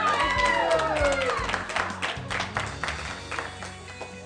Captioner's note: cheering